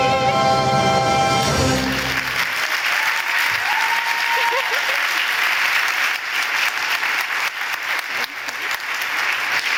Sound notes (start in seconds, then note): 1.6 audience applauding; 1.9 audience cheering